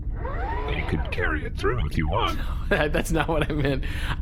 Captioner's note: laughing